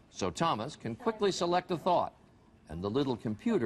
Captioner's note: voiceover